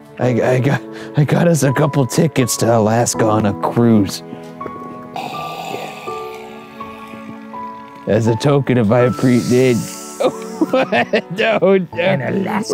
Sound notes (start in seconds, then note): 5.0 breathes ghoulishly; 9.4 sniffs loudly